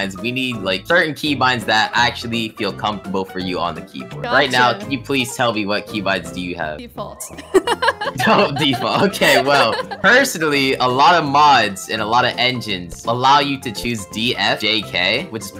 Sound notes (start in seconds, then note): 7.3 laughs